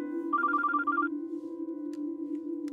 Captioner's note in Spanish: suena el celular